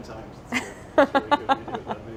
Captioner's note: laughs